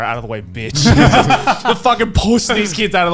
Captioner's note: laughing